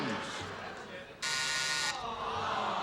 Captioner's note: buzzer